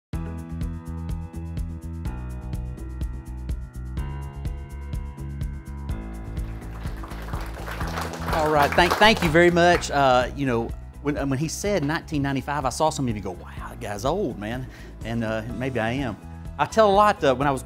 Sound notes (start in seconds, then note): 0.2 slow-paced music; 6.3 audience clapping